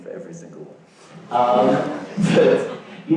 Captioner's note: audience laughs